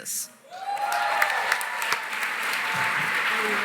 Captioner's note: cheering, applause